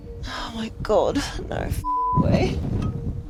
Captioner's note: beep